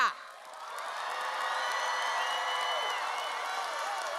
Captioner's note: audience cheers